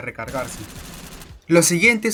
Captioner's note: sounds of gunfire